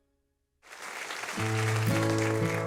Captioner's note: applause